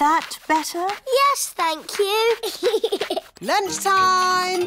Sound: giggles

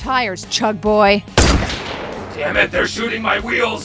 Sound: gun fires

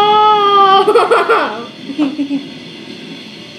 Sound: laughs

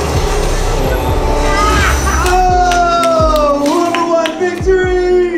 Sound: cheering and clapping

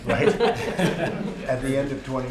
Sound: laughter

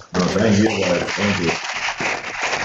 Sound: audience applauding

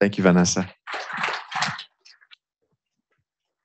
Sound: applause

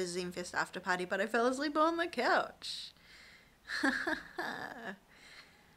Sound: laughs

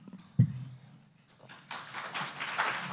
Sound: audience applause

